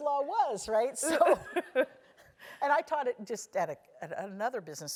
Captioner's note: laugh